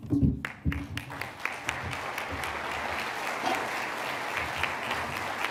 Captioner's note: applause